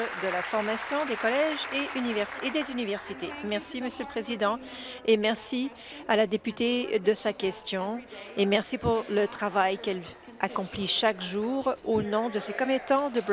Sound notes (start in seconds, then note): 2.2 applause